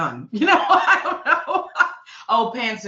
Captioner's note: laughing